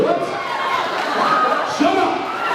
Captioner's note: cheers and boos